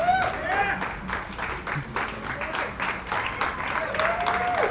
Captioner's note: applause